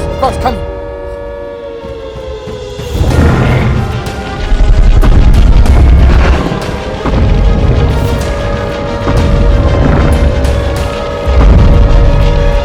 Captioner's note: Godzilla stomping loudly and sirens in the distance